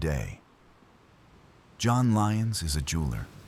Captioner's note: wind Blowing